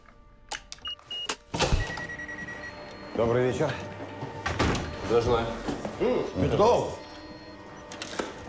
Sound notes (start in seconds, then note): 0.8 beeping